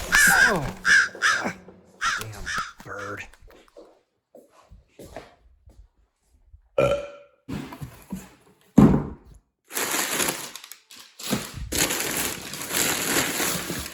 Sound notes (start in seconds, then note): 0.0 bird squawking; 6.8 Chuck belching; 11.6 paper crunching